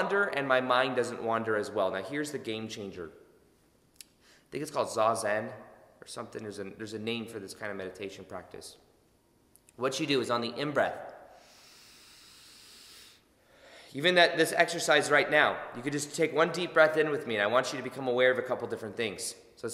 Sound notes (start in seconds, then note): 11.3 inhaling